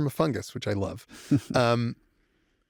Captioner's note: chuckles